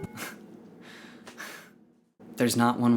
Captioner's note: laughs